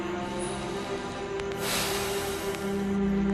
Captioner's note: both sigh